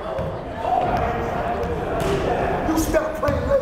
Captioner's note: chattering